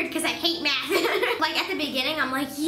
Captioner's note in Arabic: يضحك